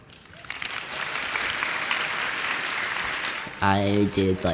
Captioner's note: audience applauding